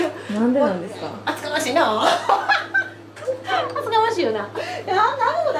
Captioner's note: laughs